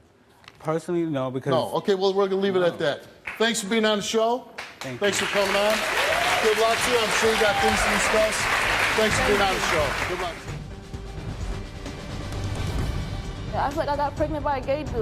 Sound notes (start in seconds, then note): 4.6 audience applauding